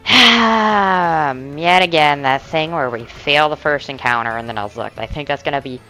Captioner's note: siiiiigh